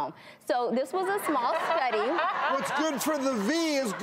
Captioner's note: audience laughs